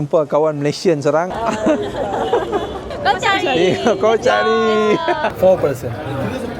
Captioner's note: laugh